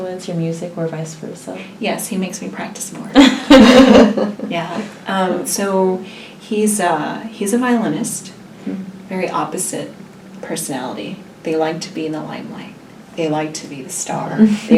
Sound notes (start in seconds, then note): 3.2 laugh